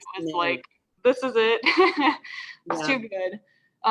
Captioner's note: laughs